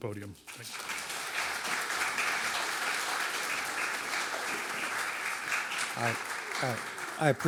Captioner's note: applause